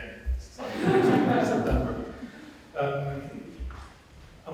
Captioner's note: audience laughing